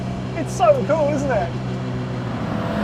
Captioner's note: vehicle revs